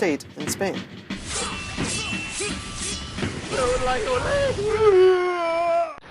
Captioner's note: humorous simulation of battle sounds